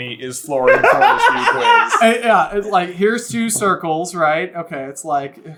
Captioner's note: giggling